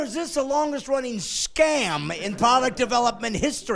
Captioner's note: laughing